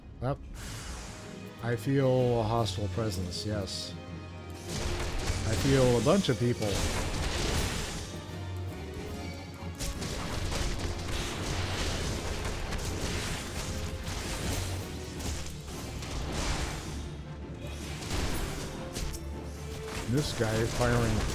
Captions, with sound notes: I feel a hostile presence, yes. I feel a bunch of people. (gunshots) (suspenseful music) This guy is firing,